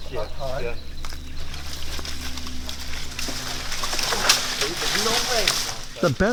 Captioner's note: branch crackling; indistinct chatter